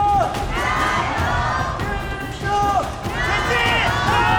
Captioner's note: JDG fans cheering hard